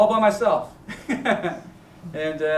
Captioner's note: chuckles